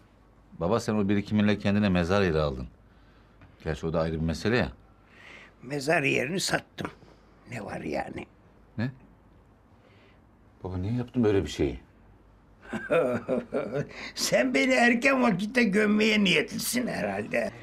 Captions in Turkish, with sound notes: Baba sen birikiminle kendine mezar yeri aldın. Gerçi o da ayrı bir mesele ya. -Mezar yerini satım, ne var yani? -Ne? Baba niye yaptın böyle bir şeyi? (Gülme sesi) Sen beni erken vakitte gömmeye niyetlisin herhalde?